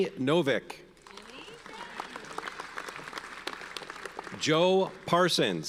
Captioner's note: audience applauds